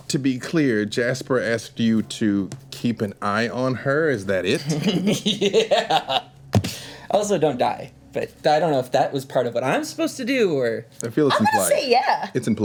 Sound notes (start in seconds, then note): 4.6 laughs